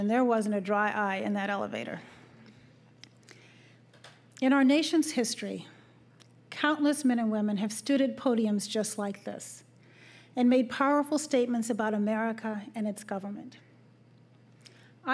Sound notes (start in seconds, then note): none